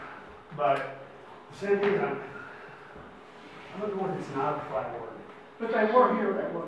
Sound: speaks faintly

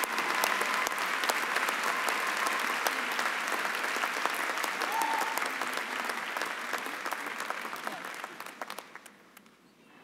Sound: applause and cheering

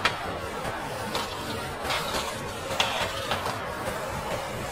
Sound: tool scraping

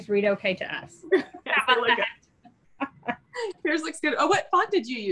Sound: laughs

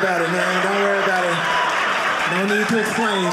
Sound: audience laughing

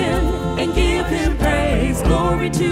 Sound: humm

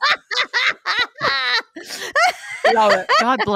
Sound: women laughing

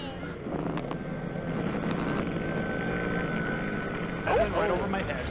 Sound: scary enderman noise

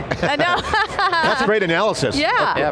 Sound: laughing

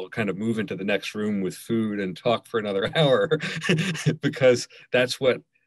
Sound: laughs

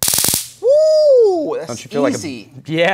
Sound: taser buzzing

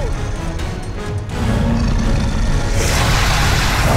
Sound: roaring

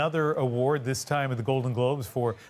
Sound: cheers and Applause

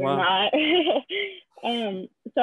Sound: laughing

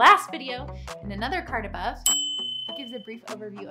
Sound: bell chimes

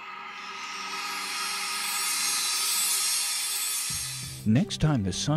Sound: sound Effects

